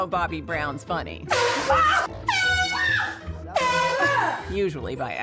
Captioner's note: horn blasts & yells